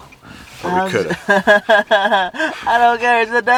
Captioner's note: laughing loudly